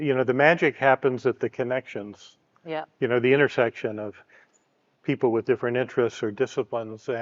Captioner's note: none